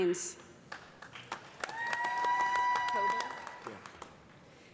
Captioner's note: cheers and applause